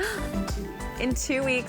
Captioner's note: gasping